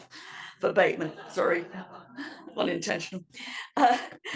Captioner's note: laugh